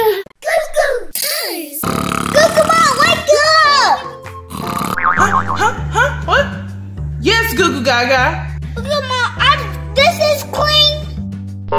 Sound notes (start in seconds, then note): 0.0 Gaga Baby laughing; 1.8 Goo Goo Mom snoring